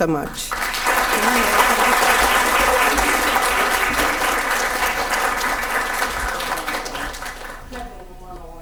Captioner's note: audience applause can be heard